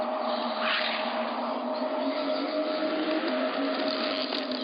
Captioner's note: voices chanting